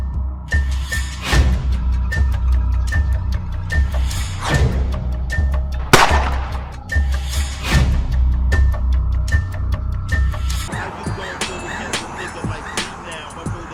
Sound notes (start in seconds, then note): 0.2 suspenseful music continues; 5.8 gun shoots